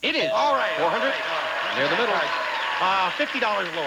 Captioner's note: audience applauding